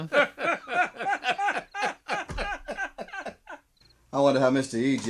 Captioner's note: laughter